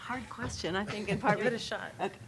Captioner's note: laughing